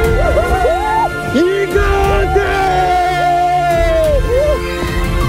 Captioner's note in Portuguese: gritando